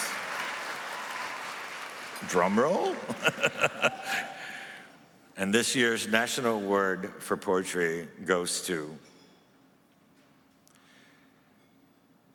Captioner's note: applause